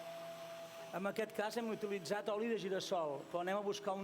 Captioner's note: non-english speech